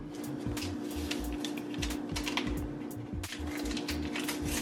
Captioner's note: paper crinkling; paper taring